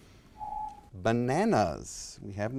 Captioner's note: timer beeps